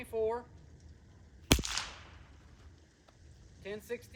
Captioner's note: gunshot